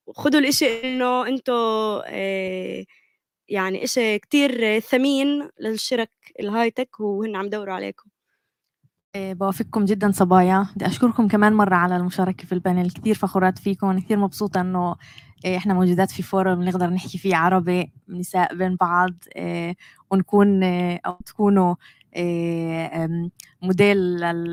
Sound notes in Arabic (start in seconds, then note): 6.0 لغة أجنبية; 12.4 لغة أجنبية; 15.9 لغة أجنبية; 21.9 لغة أجنبية